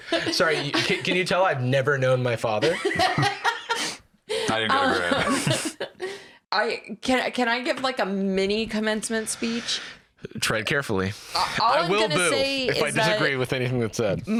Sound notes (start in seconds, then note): 4.4 laughs